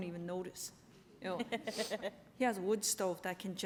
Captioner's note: laughter